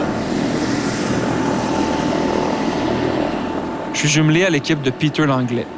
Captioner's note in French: moteur d'hélicoptère